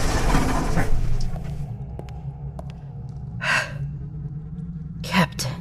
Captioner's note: the door swings open and footsteps enter. The electronic sound gets louder